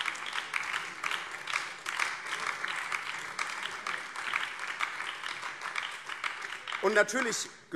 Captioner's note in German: Beifall BÜNDNIS 90/DIE GRÜNEN